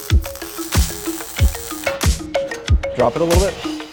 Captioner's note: weld zapping